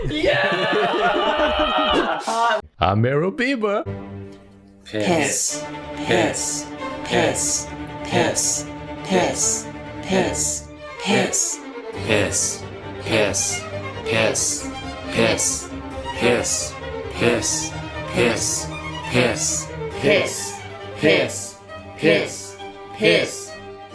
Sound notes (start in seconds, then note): 0.0 laughing; 3.9 tense music; 6.6 chanting; 7.7 tense music; 9.5 still chanting; 10.7 tense music; 12.7 chanting slightly faster; 14.8 tense music; 16.8 chanting; 18.0 tense music; 19.2 chanting louder and slightly faster